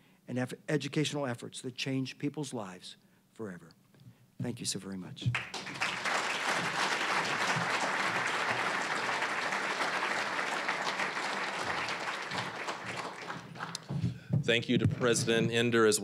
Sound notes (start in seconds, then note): 5.3 applause